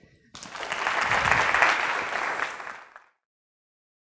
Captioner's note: applause